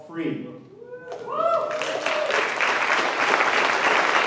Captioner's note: cheering and applause